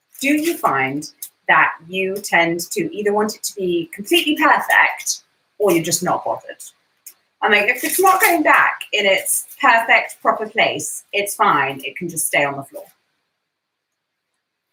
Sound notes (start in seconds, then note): none